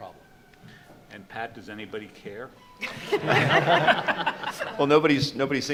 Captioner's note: group laughs